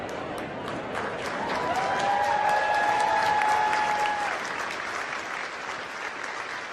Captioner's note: crowd cheering and applauding